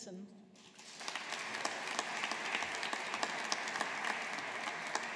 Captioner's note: audience applauding